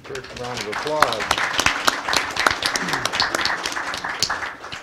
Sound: applause

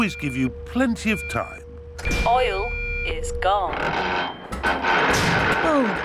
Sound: creaking

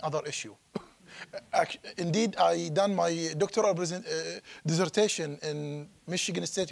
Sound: chuckling

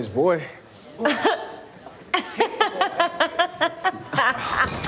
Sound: laughs

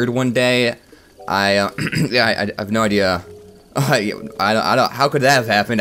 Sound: clears Throat

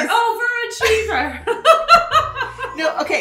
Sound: laughs

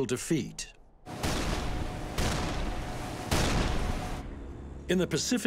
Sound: artillery shots exploding

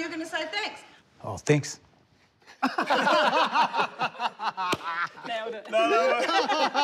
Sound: laughter

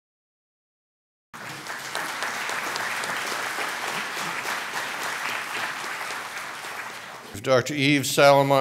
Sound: applause

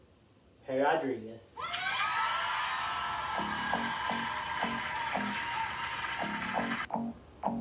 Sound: cheers and applause

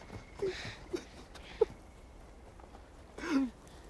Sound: sobbing

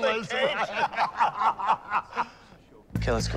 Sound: both laugh

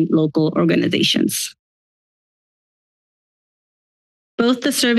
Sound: silence

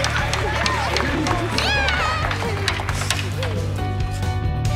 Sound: laughs

